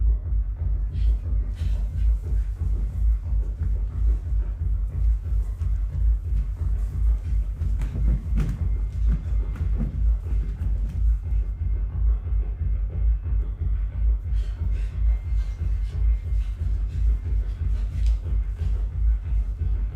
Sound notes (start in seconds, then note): 0.1 tense bass music; 13.0 tense bass music; 14.2 dancers jumping; 19.3 dancers shuffling